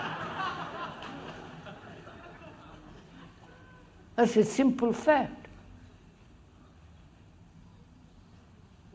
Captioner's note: laughter